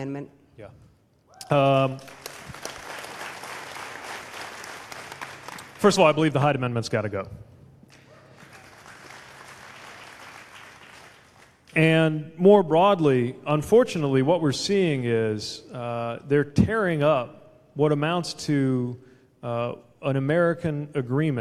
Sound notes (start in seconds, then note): 1.8 applause; 7.9 applause